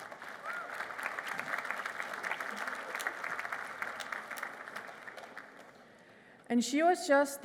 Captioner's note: applause